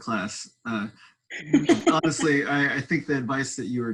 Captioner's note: laughing